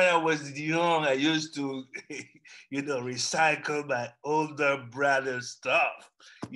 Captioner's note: laughs